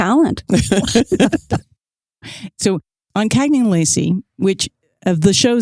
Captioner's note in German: Lachen